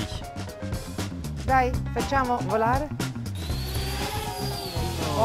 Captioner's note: speaks in Italian